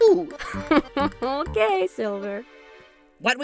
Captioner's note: cabby laughs